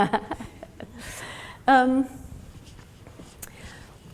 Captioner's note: laughs